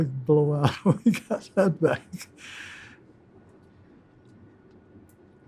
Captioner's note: laughing